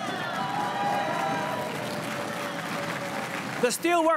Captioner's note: crowd cheering and applauding